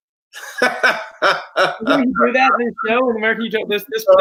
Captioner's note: laughs